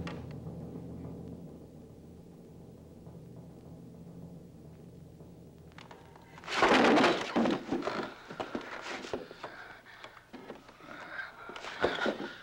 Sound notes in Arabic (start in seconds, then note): 6.4 تحطم الخشب